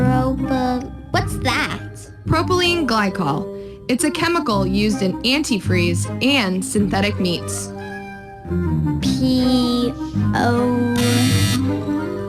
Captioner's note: buzzer